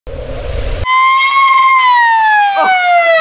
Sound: siren

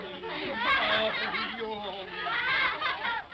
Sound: children laugh

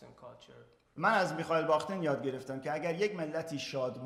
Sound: speaking in farsi

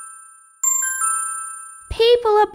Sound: ding!

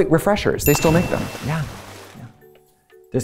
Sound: water splashes

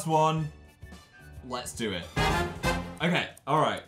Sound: hide your eyes noise

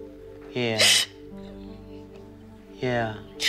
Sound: crying

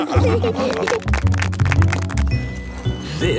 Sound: laughing; clapping

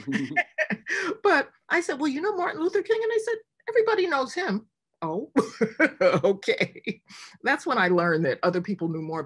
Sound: laughs

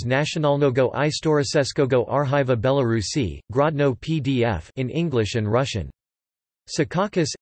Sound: in English and Russian

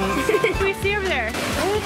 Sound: chuckles

